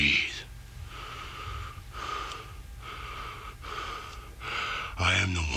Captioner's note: Ultimate Warrior breathing heavily